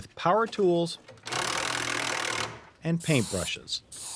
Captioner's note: tool grinding